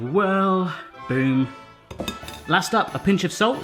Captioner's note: clanking